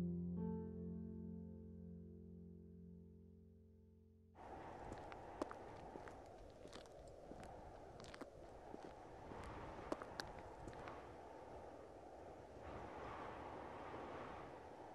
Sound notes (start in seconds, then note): 4.4 wind whistling; 4.8 footsteps tapping